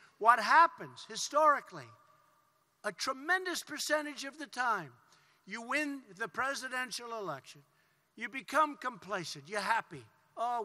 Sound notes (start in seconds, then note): none